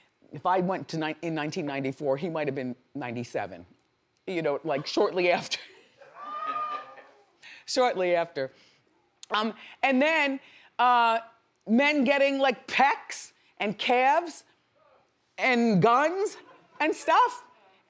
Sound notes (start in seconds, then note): 5.7 Wendy laughs